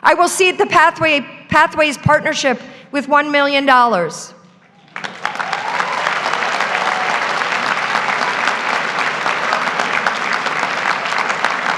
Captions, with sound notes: I will seed the Pathways Partnership with $1 million. (graduates applaud) (graduates cheer)